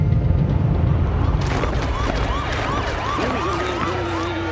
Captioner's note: clamoring